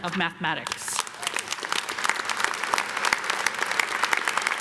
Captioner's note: audience clapping